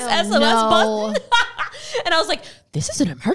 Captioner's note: laughs